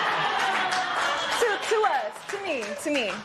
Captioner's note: laughter